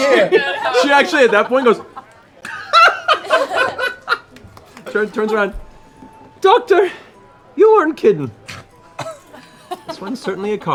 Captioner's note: laughs